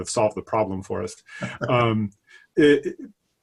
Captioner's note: laughing